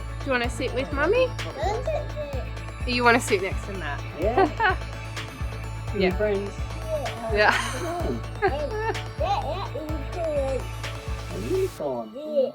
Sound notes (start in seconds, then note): 4.3 chuckles